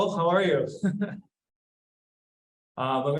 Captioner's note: laughs